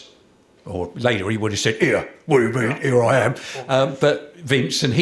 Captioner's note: growling